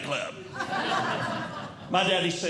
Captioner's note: audience Laughing